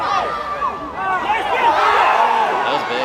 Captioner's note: crowd roars